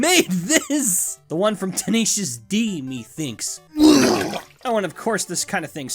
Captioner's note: vomits